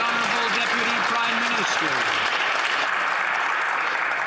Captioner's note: some Applause